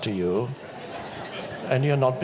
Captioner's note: audience laughs